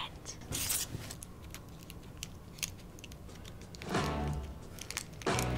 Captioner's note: wrapper crinkling; bright upbeat music